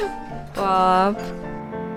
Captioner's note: laugh